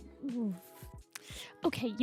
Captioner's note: clicks tongue